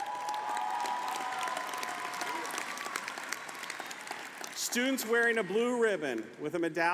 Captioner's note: applause